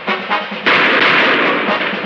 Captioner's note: shots firing